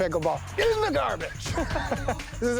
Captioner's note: chuckles